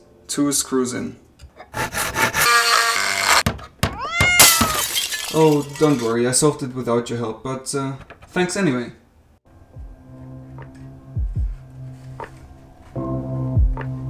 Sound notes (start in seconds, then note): 1.8 loud construction sounds